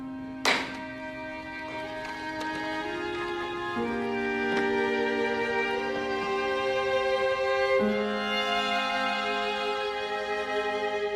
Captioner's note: gavel bangs